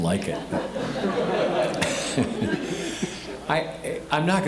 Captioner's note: audience laughing